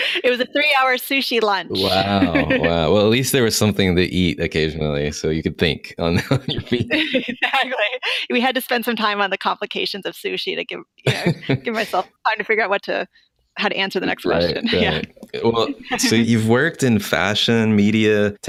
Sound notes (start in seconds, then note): 1.7 laughs; 6.0 laughter; 11.0 laughter